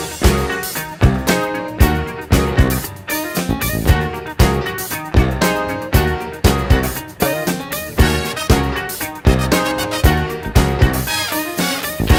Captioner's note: yells